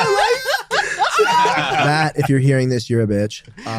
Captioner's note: group laughs loudly